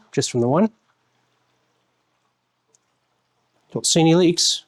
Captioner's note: silence